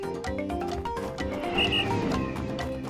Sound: whistling

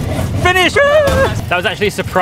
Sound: pilots laughing; 조종사 웃음; 소리 지르기; shouts

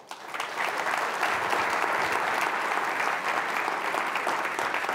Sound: audience applauding

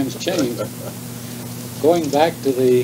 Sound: chuckles

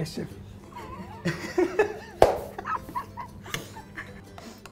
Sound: chuckles

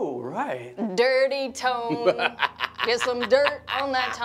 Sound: laughs

